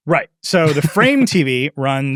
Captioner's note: laughing